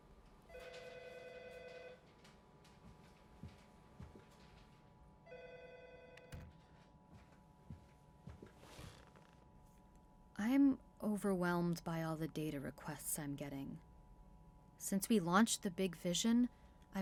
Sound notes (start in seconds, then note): 0.3 phone ringing, office chatter; 6.4 door shuts; 8.3 chair shifting